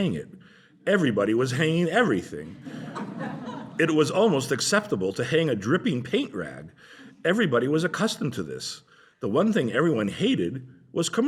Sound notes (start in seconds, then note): 2.4 laughter